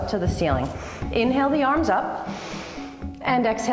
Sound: inhale

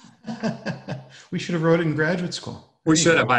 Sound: laughs

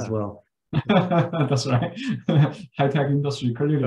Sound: laughs

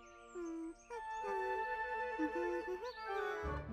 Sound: Myan humming melody

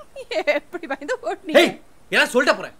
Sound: laughs

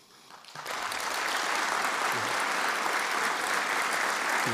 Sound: audience applauding

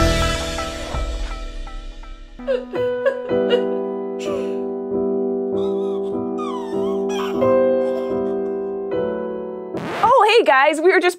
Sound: sad noises

